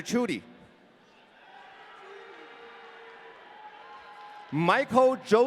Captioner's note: audience cheering